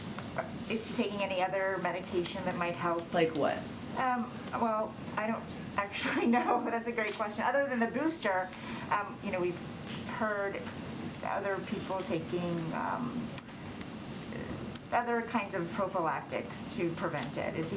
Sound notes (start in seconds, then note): 6.0 laughs